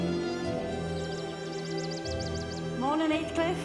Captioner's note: birds singing